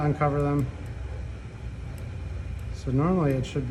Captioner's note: mouse clicking